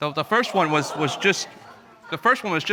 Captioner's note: audience murmuring